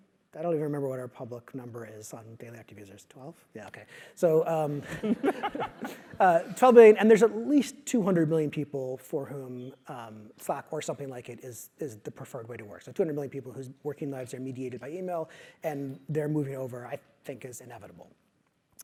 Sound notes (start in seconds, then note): 4.8 laugh